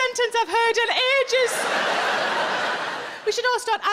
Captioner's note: audience laughing